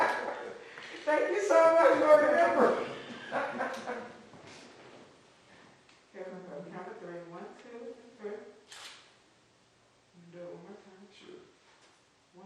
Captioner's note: laughs; laughs